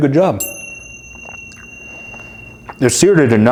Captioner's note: bell chiming